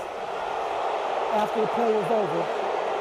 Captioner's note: crowd booing